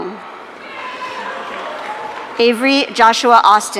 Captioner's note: audience cheering